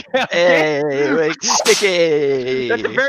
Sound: both laughing; whip sound effect

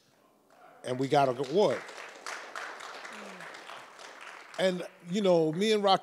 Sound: audience applauds

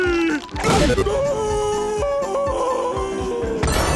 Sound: screaming

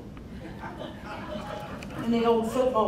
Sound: crowd laughing

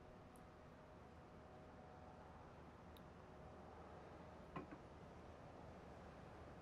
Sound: none

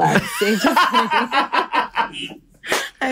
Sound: laughter

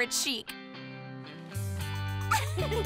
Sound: all laugh

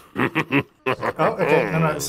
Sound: chuckling

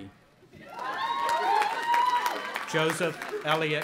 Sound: audience applauding and cheering

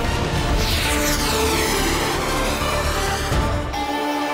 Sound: sound effect playing

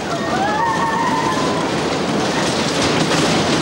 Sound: riders screaming

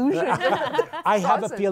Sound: laughter

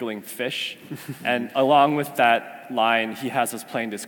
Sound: laugh

